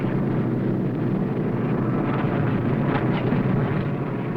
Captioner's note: plane whirring